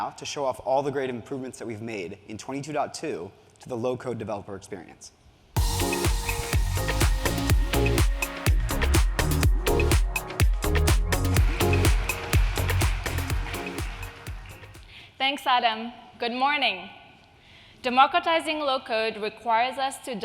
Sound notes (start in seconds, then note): 5.6 upbeat music; 10.8 audience applauding